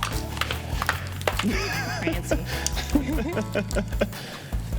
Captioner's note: laughs